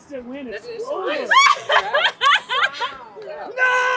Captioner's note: laughs